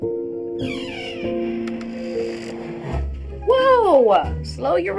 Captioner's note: somber music; door creaking